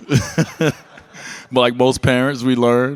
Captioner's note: Dwyane and audience laugh